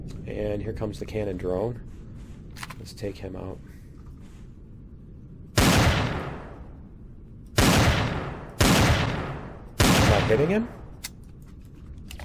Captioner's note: sniper rifle